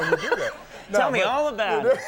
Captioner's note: Conan laughing